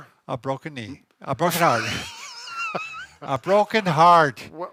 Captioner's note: laughing